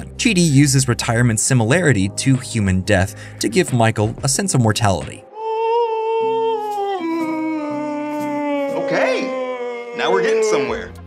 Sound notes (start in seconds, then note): 6.9 fake screaming